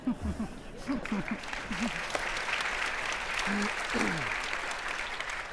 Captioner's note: audience laughing; audience applauding